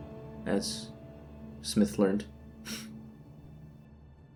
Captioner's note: sob